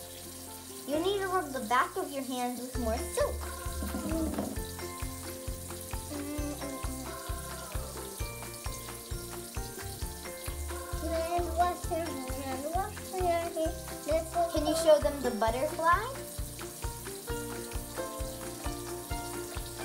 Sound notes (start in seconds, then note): 6.4 soft music; 9.0 running water